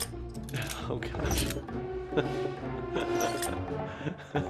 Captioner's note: laughing